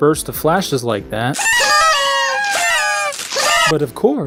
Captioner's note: party noisemakers start going off